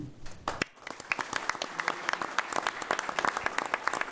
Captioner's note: applause